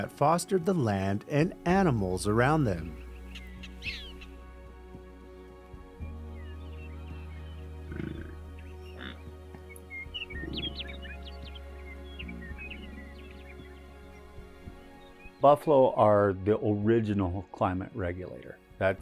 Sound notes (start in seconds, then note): 3.6 gentle music; 9.3 frogs croaking